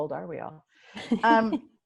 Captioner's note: laughs